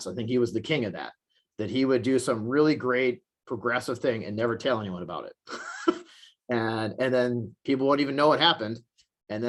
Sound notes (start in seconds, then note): 5.5 chuckles